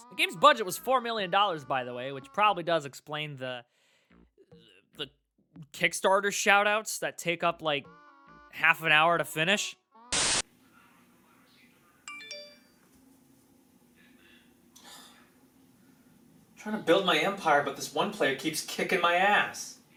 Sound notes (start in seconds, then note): 12.0 phone notification; 14.8 sigh